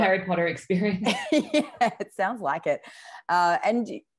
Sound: laughs

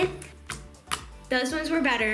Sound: slurping

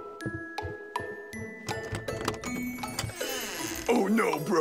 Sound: doorknob turning, door creaking

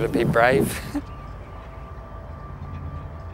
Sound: laughs; soft music

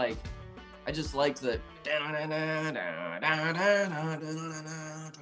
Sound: vocalizing guitar

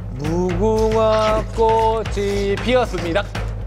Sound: chomping hard

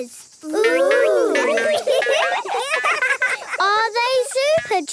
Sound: laughing

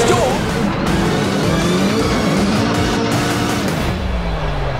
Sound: car engine revving

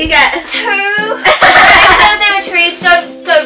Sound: laughing

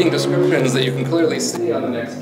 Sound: car revving

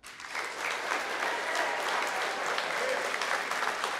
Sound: applause

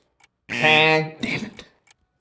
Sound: buzzer sounds

